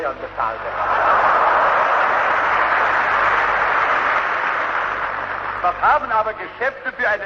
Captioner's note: laughter, Applause